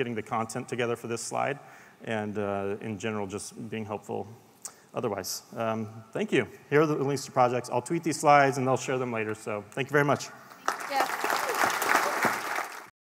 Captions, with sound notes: getting the content together for this slide, and in general, just being helpful. Otherwise. Here are the links to the project. I will Tweet the slides and share them later. Thank you very much. [APPLAUSE].